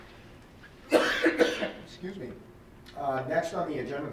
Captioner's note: coughs